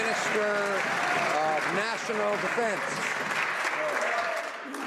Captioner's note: some Applause